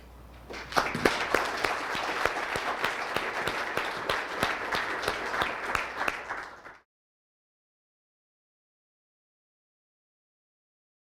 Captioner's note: audience applause